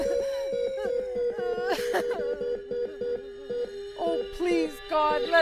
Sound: sobbing

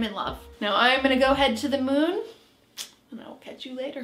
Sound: clicks mouth

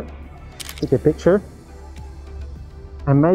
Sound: camera clicking

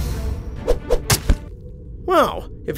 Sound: arrows fly

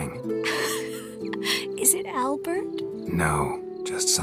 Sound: laugh

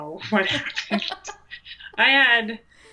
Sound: laughs

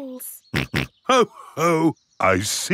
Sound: snorts

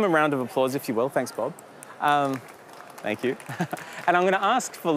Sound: applause

